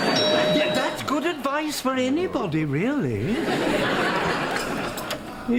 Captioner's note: doorbell